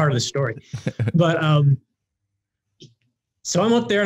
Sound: laughing

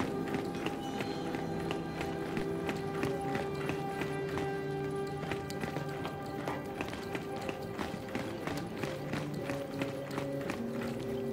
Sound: footsteps

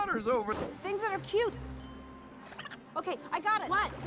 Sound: ding

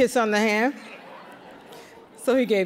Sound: audience laughing

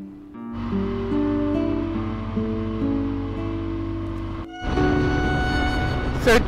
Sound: motorcycle engine roaring; soft music

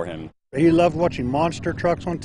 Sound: nat sound of motocycles

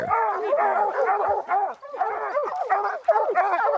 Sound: dogs barking

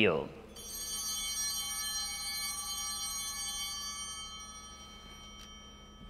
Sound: chimes ringing

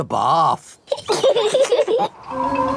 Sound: both laughing

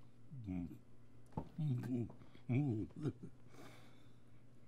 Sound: mumbling

